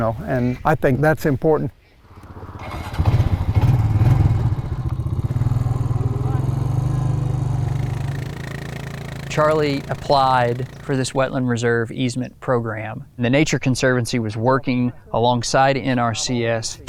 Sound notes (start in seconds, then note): 3.9 engine starts